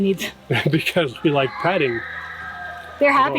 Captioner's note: kids screaming